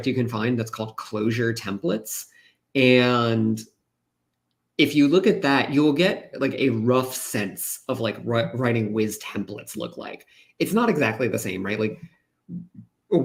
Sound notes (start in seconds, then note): none